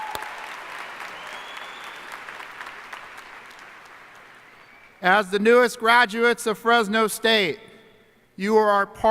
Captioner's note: applause